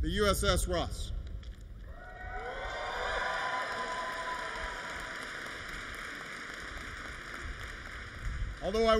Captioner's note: applause